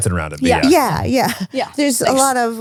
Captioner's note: laughs